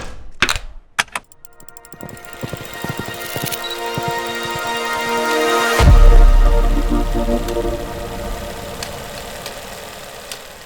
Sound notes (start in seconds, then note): 0.0 devices clicking; 0.3 riveting music; 1.5 hoofbeats thumping; 3.1 riveting music; 4.3 projector clattering